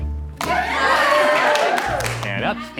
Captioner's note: onlookers cheering